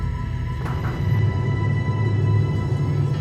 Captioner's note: knocking